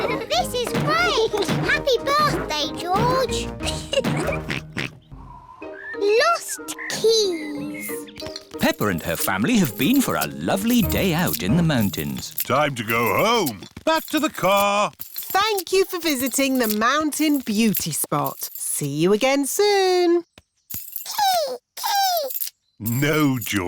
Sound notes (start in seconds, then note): 2.1 oinks; 3.6 laughs